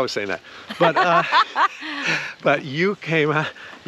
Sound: laughing amusingly

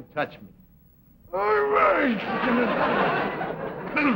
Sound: groans

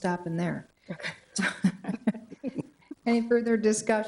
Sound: attendees laughing

